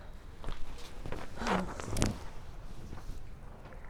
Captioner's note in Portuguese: Suspiro